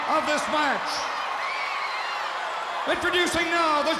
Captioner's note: crowd cheering